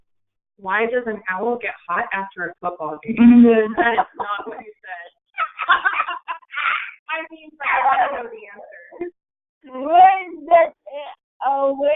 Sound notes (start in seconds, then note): 5.3 laughing